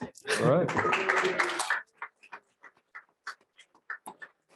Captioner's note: applause